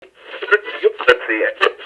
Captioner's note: radio tuning